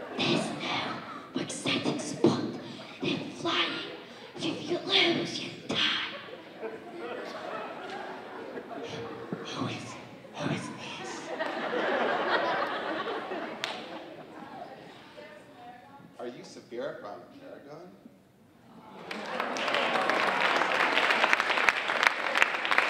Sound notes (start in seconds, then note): 11.3 audience laughing; 18.9 audience applauding